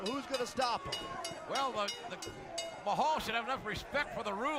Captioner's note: bell ringing